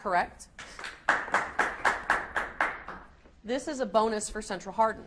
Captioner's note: audience applauds